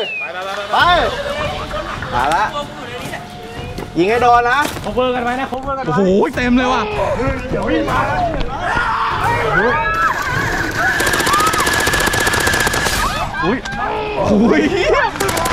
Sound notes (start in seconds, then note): 8.5 screams; 11.1 gunshot firing